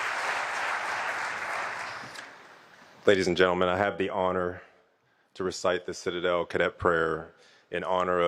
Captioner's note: applause